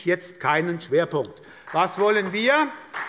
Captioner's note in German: Beifall bei der SPD